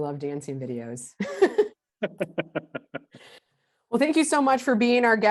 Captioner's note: laughing in unison